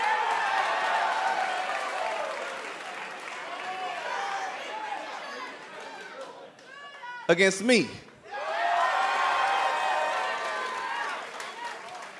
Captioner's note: cheers and applause